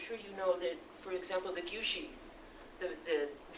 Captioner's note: non-english speech